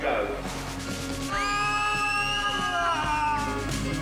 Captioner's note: all screaming